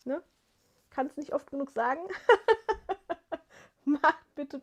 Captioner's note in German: gelächter